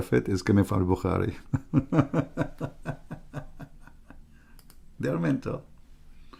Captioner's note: Ketawa